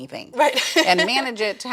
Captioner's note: laughs